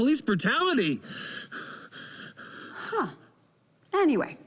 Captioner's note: breathes heavily